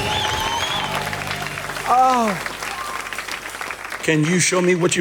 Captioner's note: audience clapping